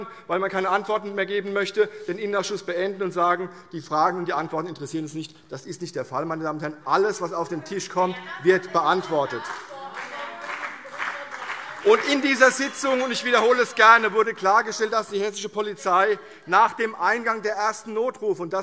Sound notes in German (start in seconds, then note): 10.9 Beifall CDU und BÜNDNIS 90/DIE GRÜNEN - Zurufe - Glockenzeichen